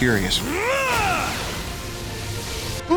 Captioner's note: screaming